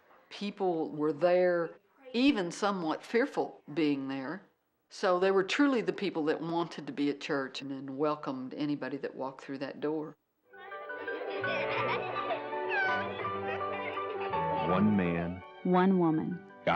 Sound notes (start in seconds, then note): 10.6 children laughing